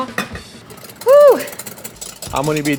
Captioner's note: whisking eggs